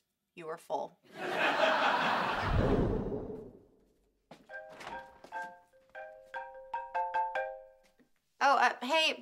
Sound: ringtone playing

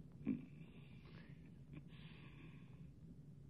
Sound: chuckling

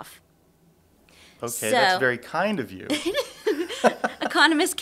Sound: both laugh

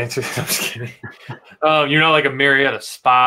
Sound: both laughing

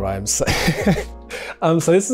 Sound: Rege-Jean laughs

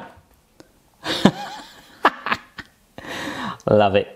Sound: laughs

